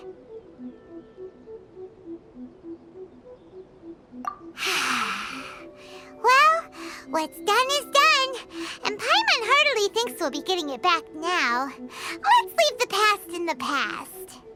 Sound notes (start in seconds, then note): 4.6 sigh